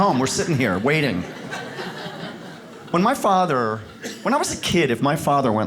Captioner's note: audience laughs